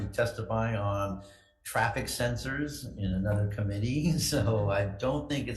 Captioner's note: chuckles